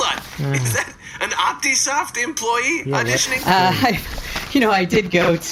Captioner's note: flipping through script